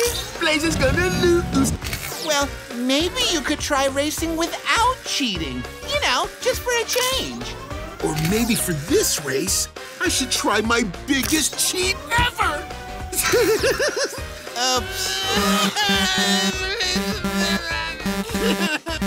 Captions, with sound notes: Blaze is going to lose! Well, maybe you could try racing without cheating, you know, just for a change. Or maybe for this race, I should try my biggest cheat ever! [giggling] [sobbing]